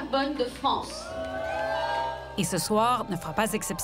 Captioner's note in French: huées